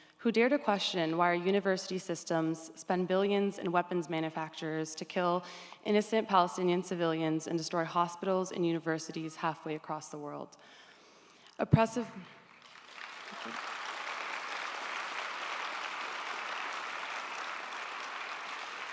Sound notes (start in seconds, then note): 12.4 audience applauds